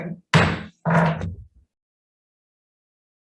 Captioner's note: gavel bangs